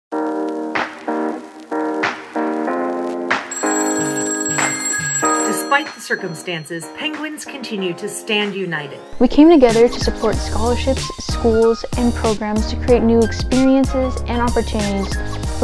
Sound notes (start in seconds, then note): 0.2 upbeat music; 3.5 phone ringing